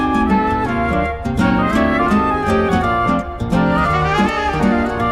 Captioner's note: panting